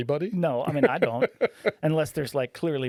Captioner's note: laughing